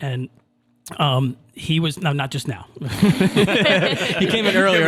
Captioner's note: all laughing